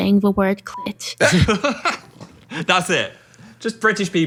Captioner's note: laughs